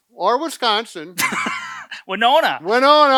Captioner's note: laughs